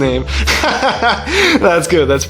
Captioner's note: laughs